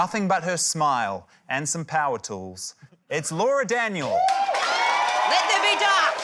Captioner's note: cheering, applause